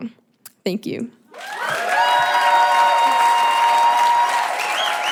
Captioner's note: audience cheering; audience clapping; audience whistling